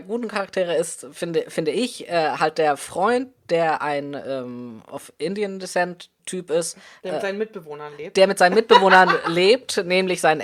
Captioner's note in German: lacht